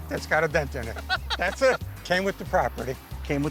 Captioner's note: laughs